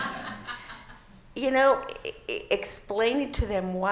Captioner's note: laughing